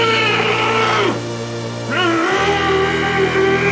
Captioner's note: monster wailing